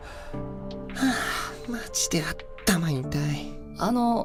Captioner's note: sigh